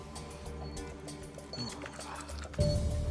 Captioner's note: panting